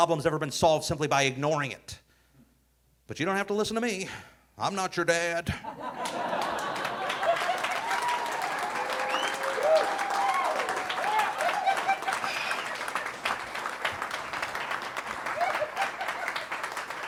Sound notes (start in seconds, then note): 6.4 audience cheering; 6.4 audience laughing